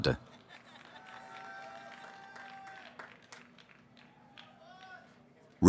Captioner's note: cheering